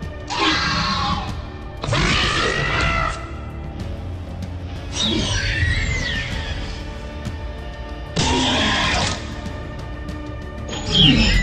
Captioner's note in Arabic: أصوات فيلوسيرابتور